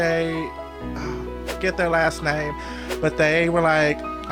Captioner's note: whoosh